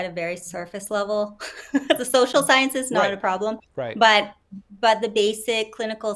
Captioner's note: laughs